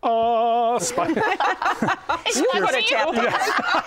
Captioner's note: laughter